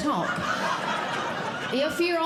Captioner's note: audience Laughing